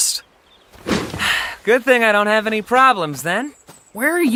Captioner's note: sighs